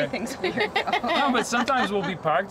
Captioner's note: chuckle